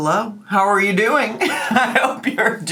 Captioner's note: laughs